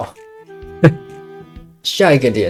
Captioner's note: guilty laugh